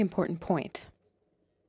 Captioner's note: speaking French